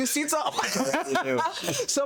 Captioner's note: laughter